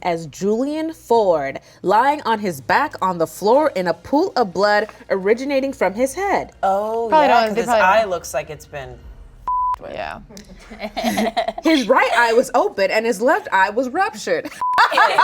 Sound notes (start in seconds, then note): 9.4 beep; 10.4 woman in white laughing; 14.4 women in white top laughing